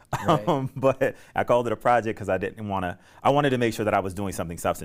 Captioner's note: laughter